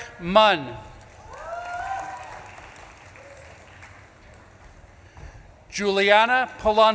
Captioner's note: audience claps and cheers